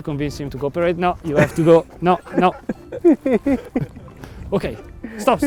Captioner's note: laughs